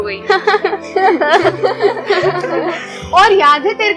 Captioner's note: laughing